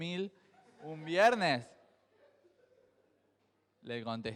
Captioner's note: crowd laughs